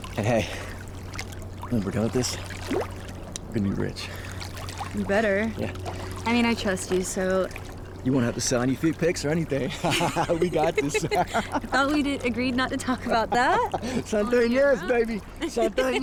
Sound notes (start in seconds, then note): 9.6 Miguel continues laughing; 9.6 Miguel and April laugh; 15.3 April laughs